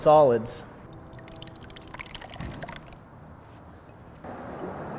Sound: liquid pouring

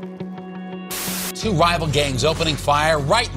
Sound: static crackling

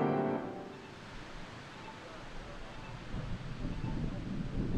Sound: crossing signal beeping

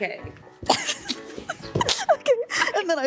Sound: chuckles

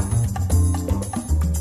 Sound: none

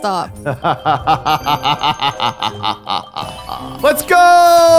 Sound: laughs

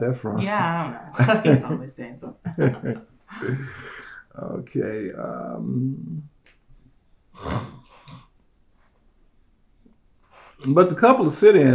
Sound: laughter

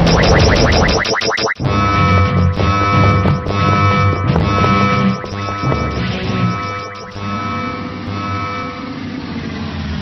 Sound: alarm goes off

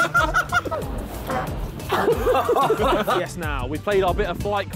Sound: all laughing; fart noise; all laughing

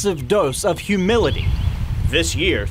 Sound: birds chirping

